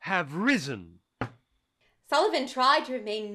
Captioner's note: knuckle rap on desk